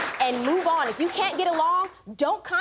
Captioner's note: audience applauding